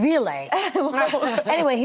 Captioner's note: laughing